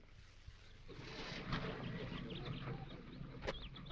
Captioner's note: birds chirping